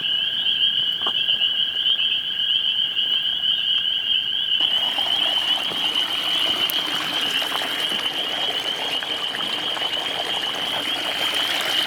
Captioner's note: spring peepers singing